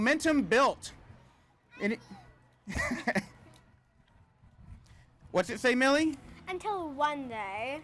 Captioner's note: laughs